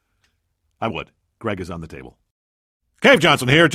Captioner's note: whispered